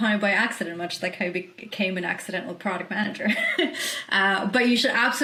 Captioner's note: chuckles